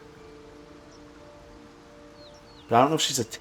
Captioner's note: silence